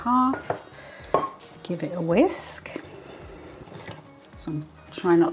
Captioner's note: gloopy whisking